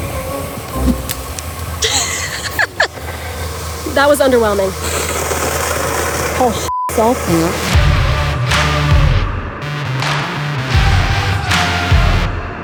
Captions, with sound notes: *laughing* That was underwhelming Paul sh*t himself.